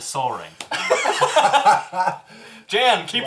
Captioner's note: all laugh